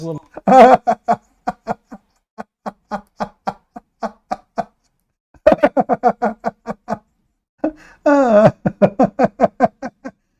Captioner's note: Ketawa